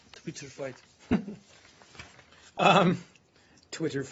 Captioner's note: laughter